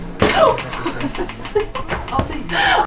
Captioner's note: laughs